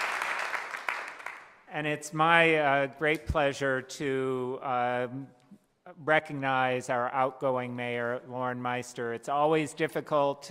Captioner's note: applause